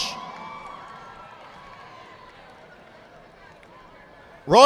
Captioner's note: audience applauding